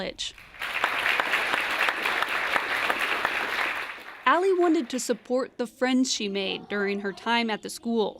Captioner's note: applause